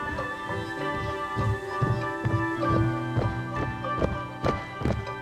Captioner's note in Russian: приближающееся марширование солдат по брусчатке